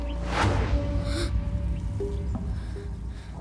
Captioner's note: Gasps